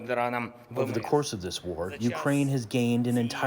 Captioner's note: through translator